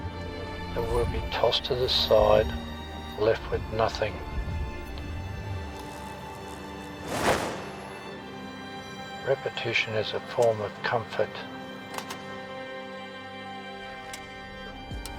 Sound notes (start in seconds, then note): 4.9 melancholy music; 6.9 sound effect swishes; 12.1 melancholy music